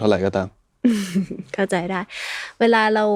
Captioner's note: laughs